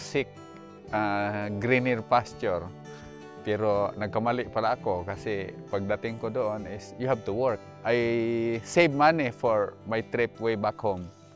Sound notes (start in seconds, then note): none